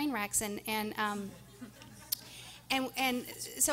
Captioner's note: everyone laughing